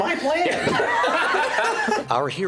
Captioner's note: laughter